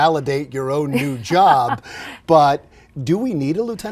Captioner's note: laughs